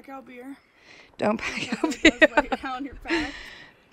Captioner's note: laughing